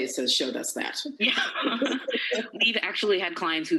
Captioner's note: laughter